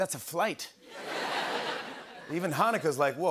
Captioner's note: laughter